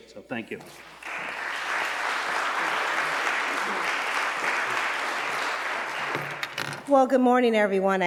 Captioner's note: applause